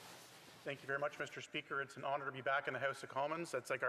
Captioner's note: speaking French